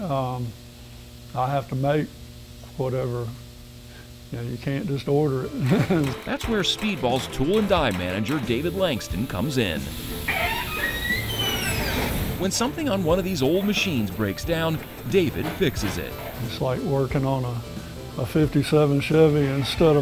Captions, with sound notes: I have to make whatever, you know, you can't just order it. - That's where Speedball's tool and dye manager David Langston comes in. (door squeaks) When something on one of these old machines breaks down, David fixes it. - It's like working on a '57 Chevy instead